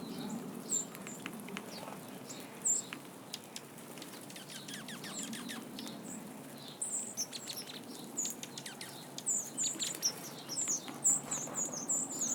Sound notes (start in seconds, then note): 3.2 aggressive chirping from birds becomes increasingly reverberated